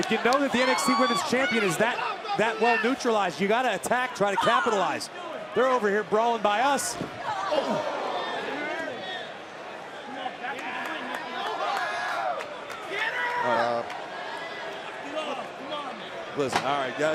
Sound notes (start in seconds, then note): 11.1 crowd cheering; 12.7 crowd chatter